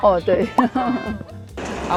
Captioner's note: awkward laugh